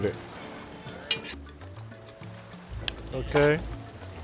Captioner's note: spoon clanks